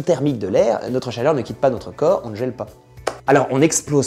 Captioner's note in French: claquement de mains